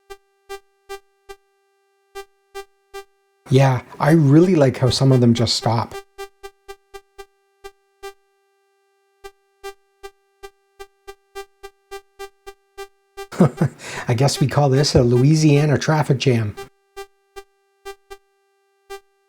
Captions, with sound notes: Yeah, I really like how some of them just stop. [chuckles] I guess we call this a Louisiana traffic jam.